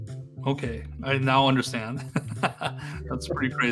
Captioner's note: chuckles lightly